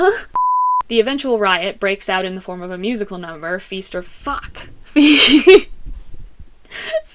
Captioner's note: laughter